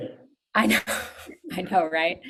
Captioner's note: chuckles; laughs